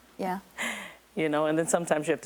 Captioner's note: laughing